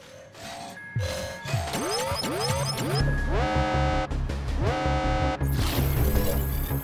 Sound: alarm blaring

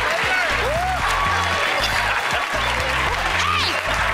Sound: laughs; applause

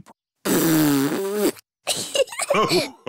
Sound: blows raspberry; laughter

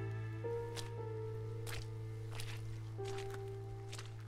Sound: mud squelching

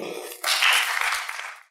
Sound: applause

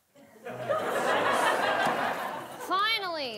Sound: audience laughing

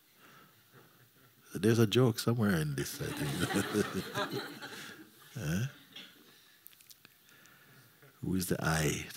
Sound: laughter

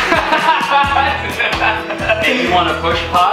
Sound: laughing

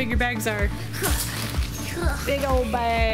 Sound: grunting

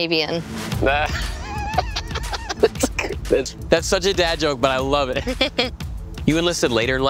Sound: laughs

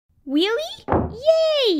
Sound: front door closes

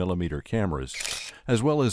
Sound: shutters clicking

